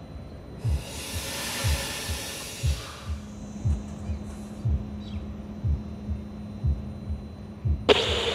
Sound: train hisses, heartbeat pulses

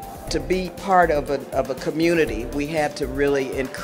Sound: voiceover

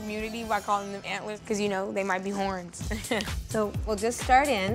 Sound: chuckles

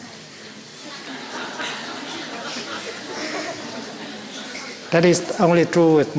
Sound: laughter

